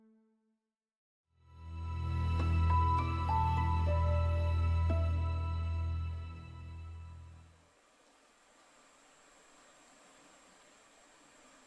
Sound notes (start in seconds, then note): 1.5 dramatic music; 7.4 water rushes